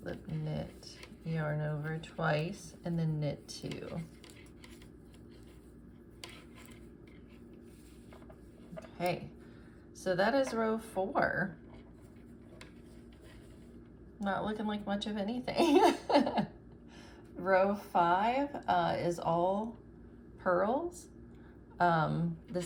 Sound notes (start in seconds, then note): 15.6 laughs